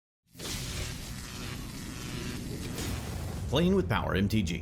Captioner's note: electric zapping